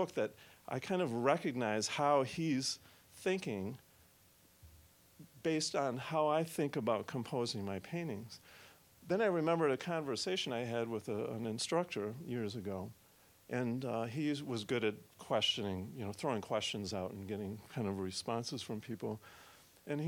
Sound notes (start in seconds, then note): none